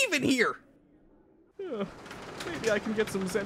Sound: KRILLIN sighs

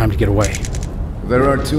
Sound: rod expanding

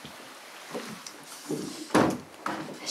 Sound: door clicking closed

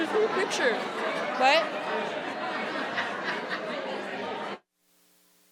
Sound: audience members murmuring

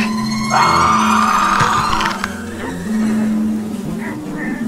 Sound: Adam screaming

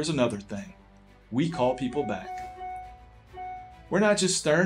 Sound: text bubbles ding

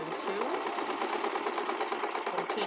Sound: sewing machine clattering

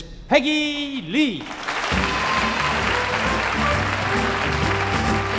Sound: audience applauding

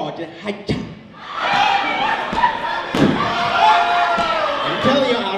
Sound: audience laughs

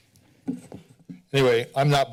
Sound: soft tapping sound

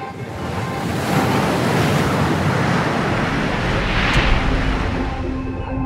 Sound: water splashing

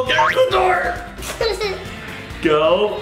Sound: boinking; giggles

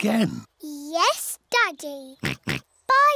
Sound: oinks

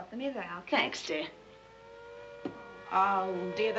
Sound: air-raid siren

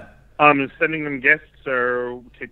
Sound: male Voice

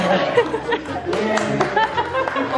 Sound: laughing

